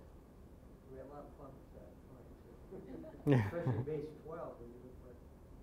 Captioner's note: scattered chuckling